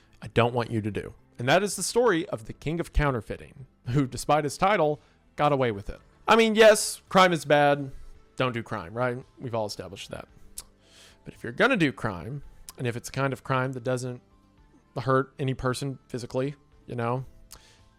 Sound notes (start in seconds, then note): 10.5 clicks tongue